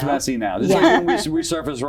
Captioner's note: laugh